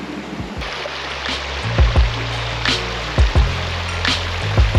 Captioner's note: running water, with upbeat music